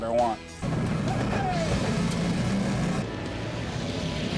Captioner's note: engine rumbling